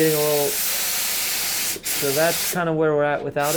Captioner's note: loud spraying